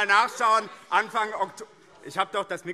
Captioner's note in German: Fortgesetzte Zurufe